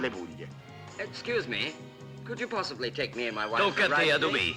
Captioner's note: spoken English